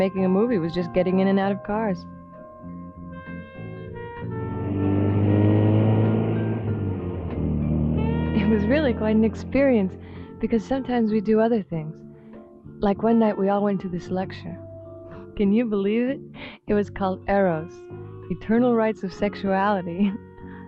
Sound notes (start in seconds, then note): 3.6 engine roaring